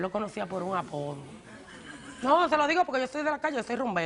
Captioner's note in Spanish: Risas